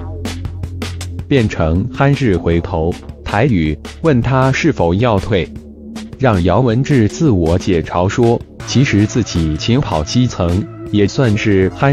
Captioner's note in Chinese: 台語